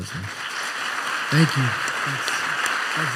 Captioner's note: applause